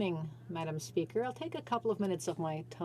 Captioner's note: speaking in french